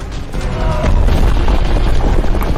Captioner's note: sound of collapse